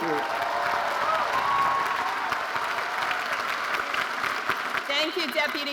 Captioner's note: audience cheering and applauding